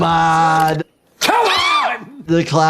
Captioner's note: yelling